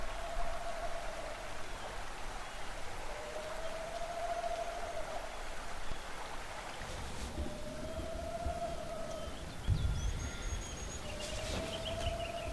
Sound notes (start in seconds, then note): 0.6 birds trilling; 9.3 birds chirping